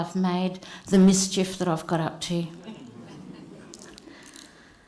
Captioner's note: laughter